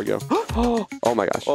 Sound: both gasp

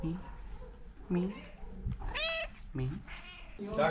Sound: cat meowing

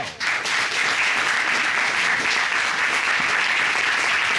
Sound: applause

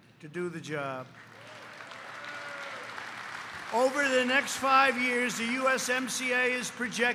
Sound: applause

